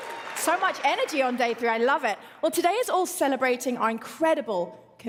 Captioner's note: applause